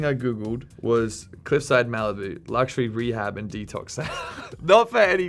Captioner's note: laughing